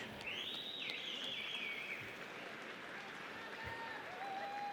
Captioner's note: audience applauds